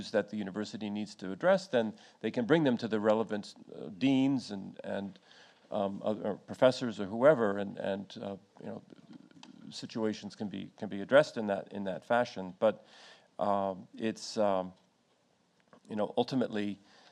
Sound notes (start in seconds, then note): none